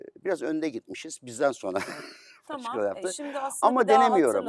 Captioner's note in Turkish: kahkaha